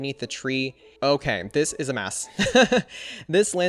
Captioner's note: laughs